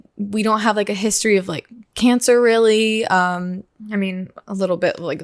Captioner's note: none